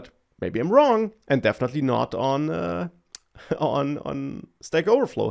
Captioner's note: laughs